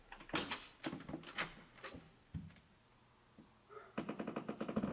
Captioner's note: lock clicks; door clicks